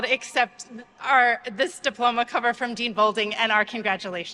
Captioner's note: none